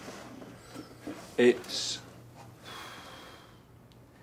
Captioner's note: exhales